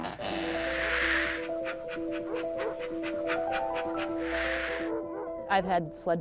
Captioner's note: ambient instrumental music; panting